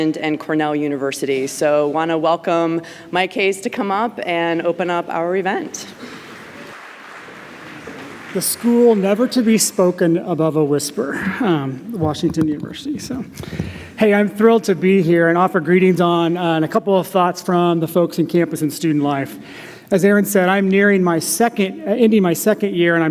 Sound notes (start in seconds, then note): 6.0 applause